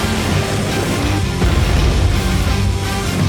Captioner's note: more explosion